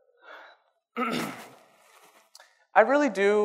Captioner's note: clears throat